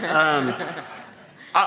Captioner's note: laughter